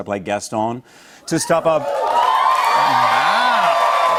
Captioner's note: cheers and applause